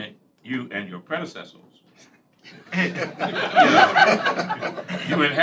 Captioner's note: laughter